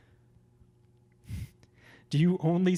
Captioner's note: laughs